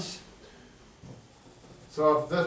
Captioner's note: eraser scrapes board